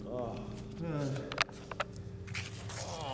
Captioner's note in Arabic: آهات